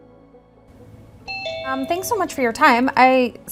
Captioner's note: doorbell